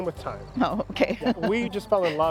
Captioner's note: ^laughter^